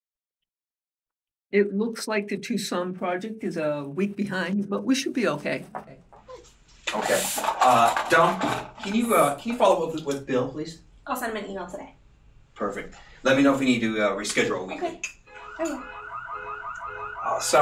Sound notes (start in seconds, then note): 6.9 pencils rattling in cup loudly; 15.2 car alarm blaring loudly